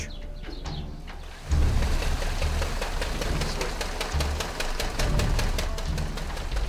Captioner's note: water flowing and mechanical noise